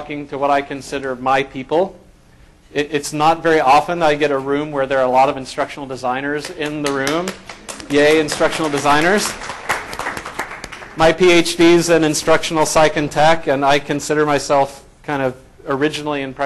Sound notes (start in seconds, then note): 9.3 applause